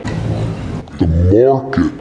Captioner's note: distorted droning; slowed vocal